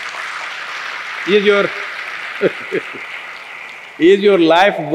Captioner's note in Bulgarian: Ръкопляскания; смее се